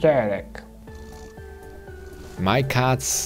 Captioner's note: cat purring